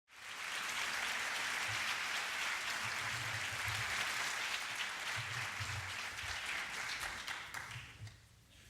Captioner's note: applause